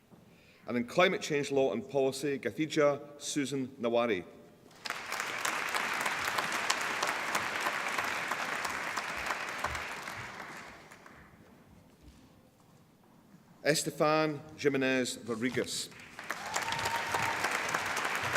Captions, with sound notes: And in Climate Change Law and Policy Gathigia Susan Nyawira (APPLAUSE) Estefanía Jiménez Rodríguez (APPLAUSE)